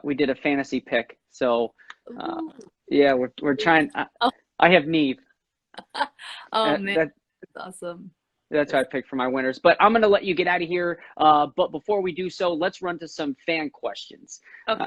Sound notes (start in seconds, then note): 8.6 laughs